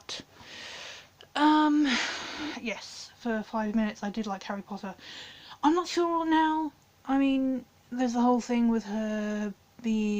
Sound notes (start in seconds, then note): 1.8 defeated sigh